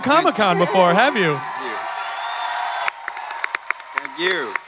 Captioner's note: clapping and cheering